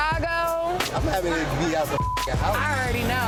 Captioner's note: beeps